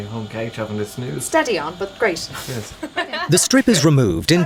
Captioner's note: laughs